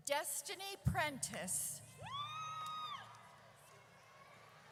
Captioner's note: audience cheers